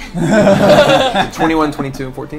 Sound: all laugh

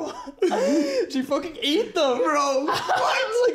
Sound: laughs

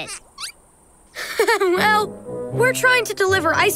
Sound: laughing

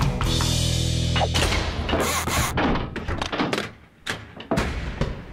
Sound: locks opening

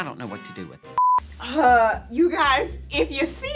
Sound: beep

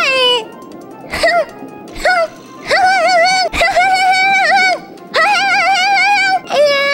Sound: angry hmphs

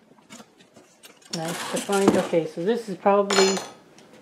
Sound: clank

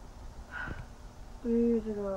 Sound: Alexie sighs

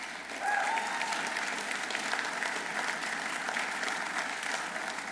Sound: audience applauding

